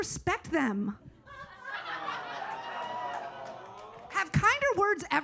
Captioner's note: audience awes